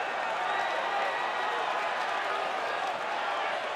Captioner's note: applause